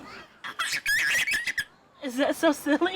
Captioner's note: little girl squeals